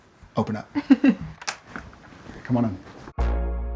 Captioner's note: Genevieve laughing; upbeat music